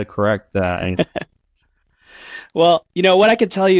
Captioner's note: laughs